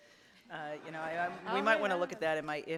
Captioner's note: audience laughs